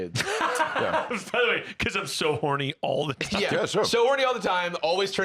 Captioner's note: laughs